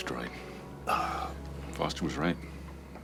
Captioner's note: moan